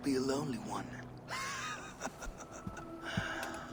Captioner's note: laughs